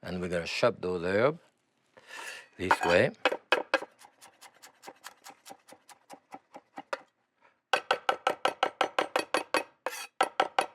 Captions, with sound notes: AND WE'RE GOING TO CHOP THOSE HERB THIS WAY. [chopping]